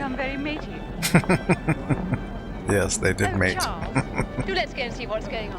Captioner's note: laughing